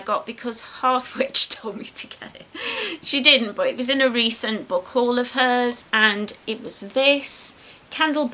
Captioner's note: giggles